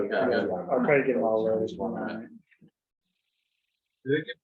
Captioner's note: members chattering